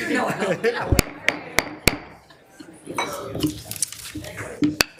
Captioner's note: gavel knocking